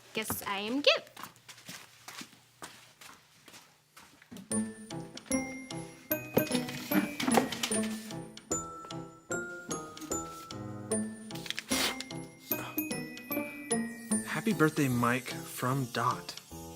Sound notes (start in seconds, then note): 1.0 footsteps retreating; 4.5 upbeat music; 6.2 chair clattering; 8.1 upbeat music; 11.3 blowing; 11.6 upbeat music